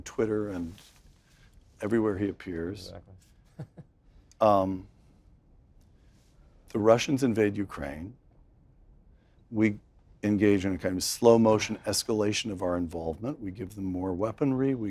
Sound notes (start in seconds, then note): 3.5 laugh